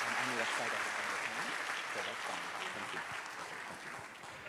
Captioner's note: unmiced voice talking